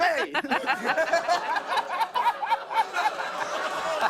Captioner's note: laughter; audience oohs